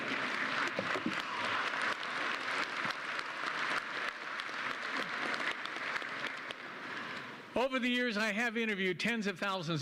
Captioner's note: applause